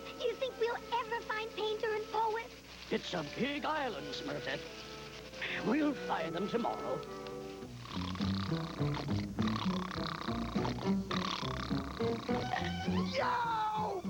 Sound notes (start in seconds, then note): 7.8 snore